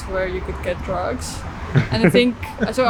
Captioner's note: laughter